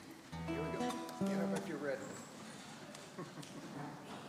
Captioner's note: laughs